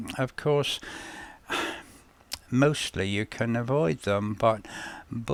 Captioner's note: sigh